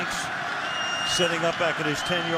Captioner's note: whistle